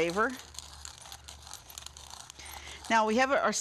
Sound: grinder grinding

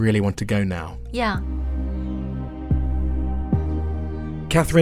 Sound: voiceover

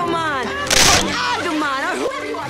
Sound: loud crunch; Tai's voice starts speeding up

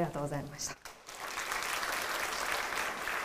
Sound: applause

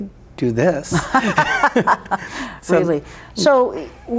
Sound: both laughing

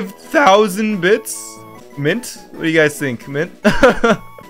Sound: laughs

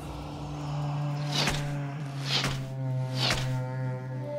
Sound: arrows whooshing

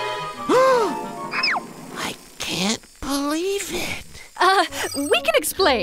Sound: activation beep; gasp

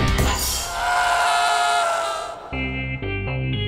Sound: screaming

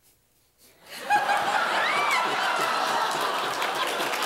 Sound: laughter

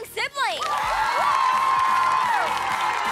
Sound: cheering

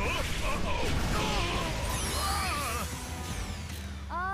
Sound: grunting

